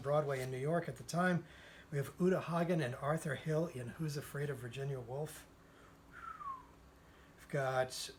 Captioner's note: whistle